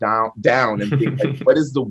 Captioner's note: laughs